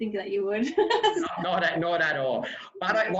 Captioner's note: laughing loudly